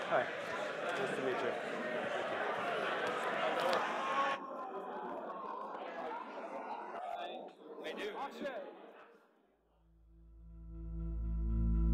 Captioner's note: crowd fades out